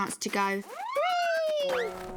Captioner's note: exclaiming